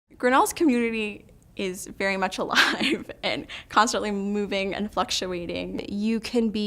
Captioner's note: laughter